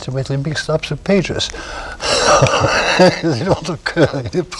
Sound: laughter

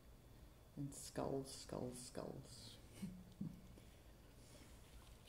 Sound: chuckles

